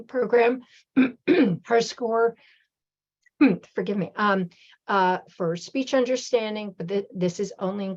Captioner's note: clearing throat